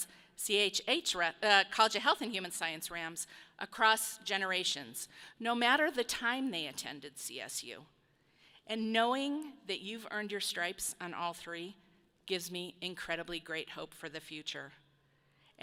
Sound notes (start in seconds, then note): none